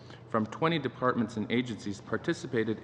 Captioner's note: speaking english